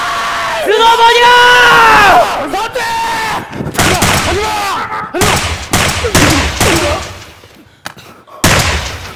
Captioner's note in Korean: 총소리들